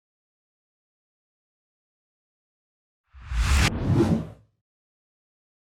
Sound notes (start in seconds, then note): 3.2 logo whooshing